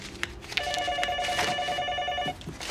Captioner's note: phone ringing